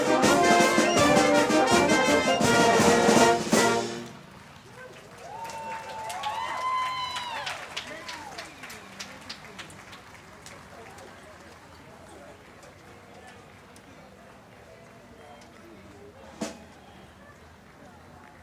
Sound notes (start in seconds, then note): 4.6 crowd cheering